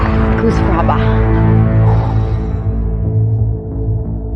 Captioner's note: exhales sharply